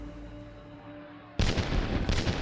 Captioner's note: gunfire cracks